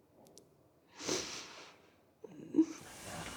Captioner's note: sniffs